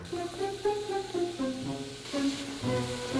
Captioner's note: sizzling